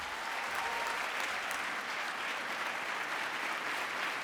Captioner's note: applause